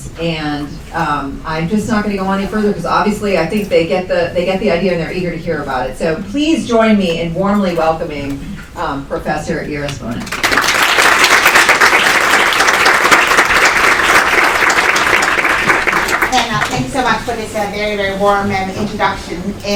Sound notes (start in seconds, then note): 10.2 applause